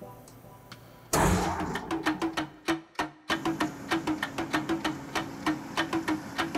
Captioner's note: rhythmic music; machine whirring